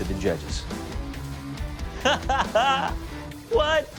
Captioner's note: laughing